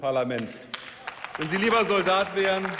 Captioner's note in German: Beifall